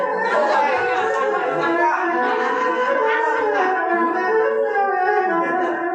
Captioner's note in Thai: ปรบมือ